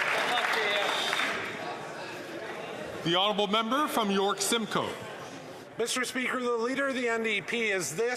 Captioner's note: some Applause